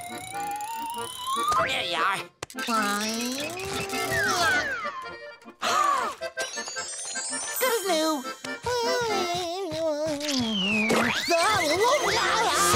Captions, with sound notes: There ya are. Good as new. [humming] Whoa!